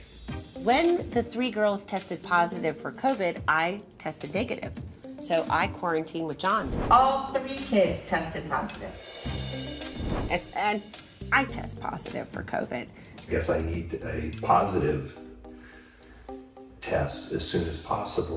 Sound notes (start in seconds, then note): none